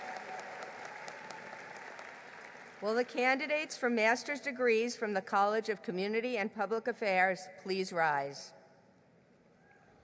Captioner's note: applause